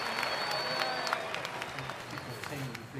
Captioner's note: crowd applauding and cheering